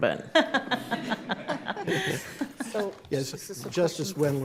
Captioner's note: all laughing